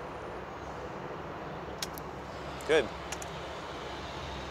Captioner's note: camera clicks